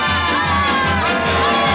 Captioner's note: screaming